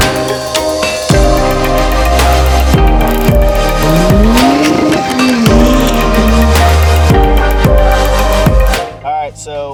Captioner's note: engine Revving